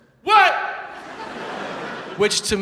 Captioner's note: audience laughs